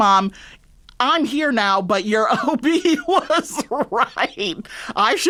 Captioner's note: laughter